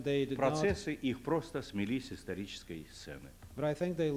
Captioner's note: non-english speech